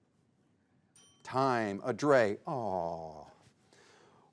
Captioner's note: bell dings